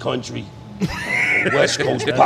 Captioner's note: laughing